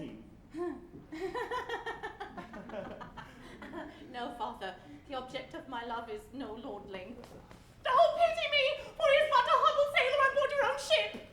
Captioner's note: JOSEPHINE, laughing